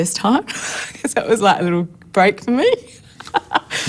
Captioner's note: laughs